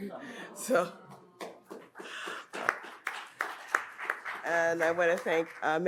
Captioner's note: audience applauds